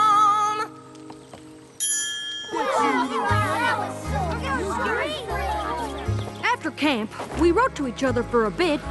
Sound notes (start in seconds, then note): 1.8 ding; 2.5 excited chatter